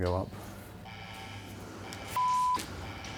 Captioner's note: buzzing; beep